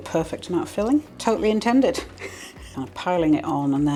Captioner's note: laugh